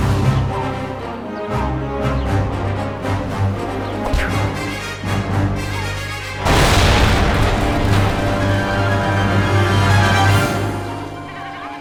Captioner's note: epic battle sounds